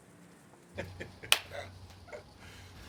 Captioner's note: laughing